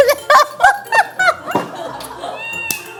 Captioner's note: giggles